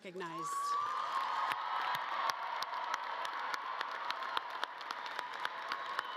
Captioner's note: audience cheering and clapping